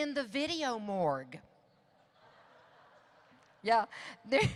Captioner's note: audience laughs